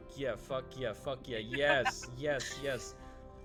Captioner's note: laughs